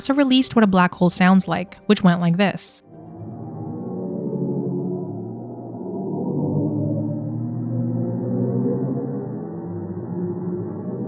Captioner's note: NASA’s black hole sounds playing